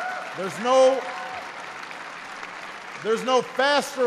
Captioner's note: applause